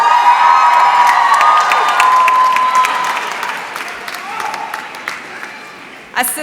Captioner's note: applause